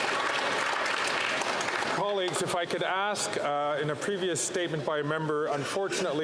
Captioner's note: some Applause